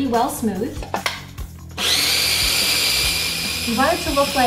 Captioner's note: food processor whirs